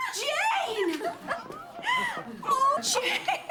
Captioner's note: laughs